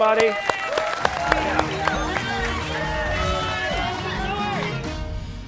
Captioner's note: cheers and applause